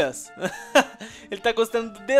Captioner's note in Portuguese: risos